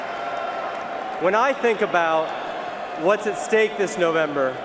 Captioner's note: cheering and applause